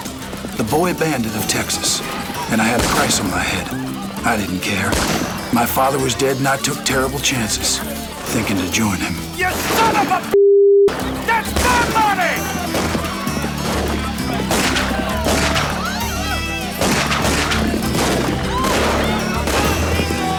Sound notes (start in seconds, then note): 14.5 guns fire rapidly; 14.5 villagers yelp and yell